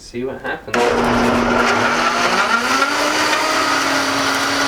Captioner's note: whirring